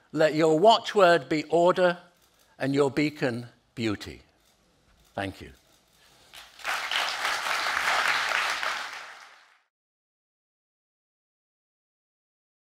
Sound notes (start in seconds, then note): 6.3 crowd applauding